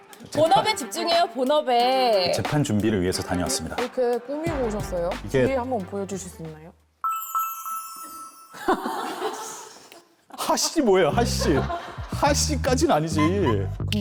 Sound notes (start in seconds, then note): 7.1 sound effect of showing the back too; 13.8 in a worried voice